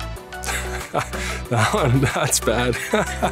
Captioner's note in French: rires